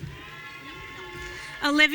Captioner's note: audience cheering